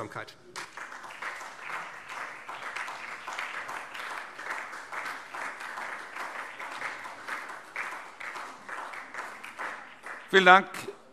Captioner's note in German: Beifall SPD und vereinzelt DIE LINKE